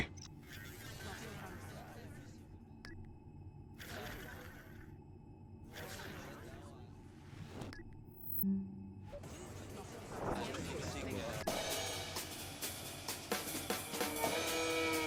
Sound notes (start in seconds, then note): 0.1 electronic beeping; 9.0 people chattering; 11.5 upbeat instrumental music